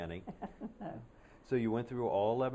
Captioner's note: laughter